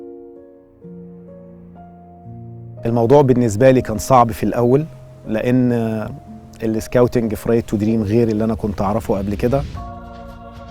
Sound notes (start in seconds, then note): 0.1 gentle music; 5.5 in Arabic